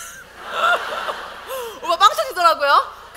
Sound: audience : Laugh

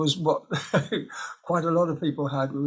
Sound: he laughs

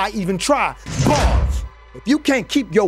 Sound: bars slamming

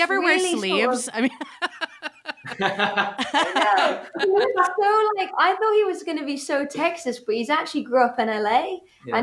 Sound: laughs

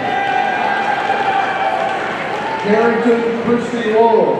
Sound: audience cheering

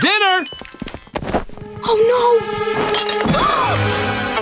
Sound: gasping

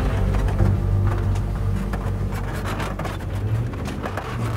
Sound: tires rumbling

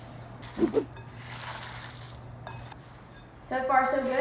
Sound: meat squishing

